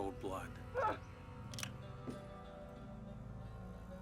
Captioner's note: muffled cry